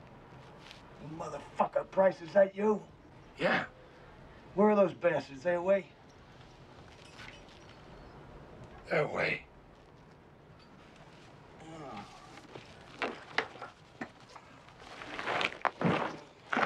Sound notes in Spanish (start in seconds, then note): 11.5 groans